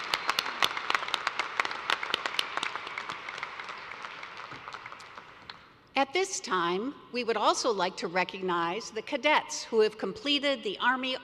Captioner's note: applause